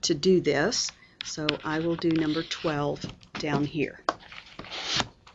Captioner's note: pause, teacher turning pages